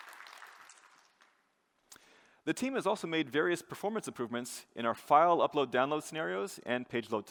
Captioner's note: applause